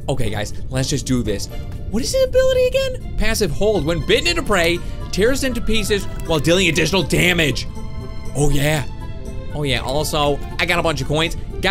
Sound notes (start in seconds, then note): 1.6 high pitched voice; 3.2 normal voice